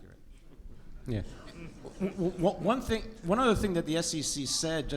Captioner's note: audience laughs